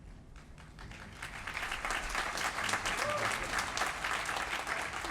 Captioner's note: applause